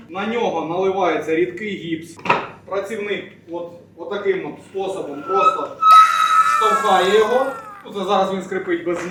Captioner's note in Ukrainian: крик